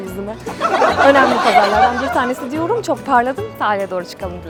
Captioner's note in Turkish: kahkaha